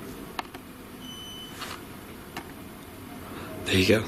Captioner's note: beep